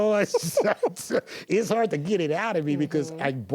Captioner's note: laughs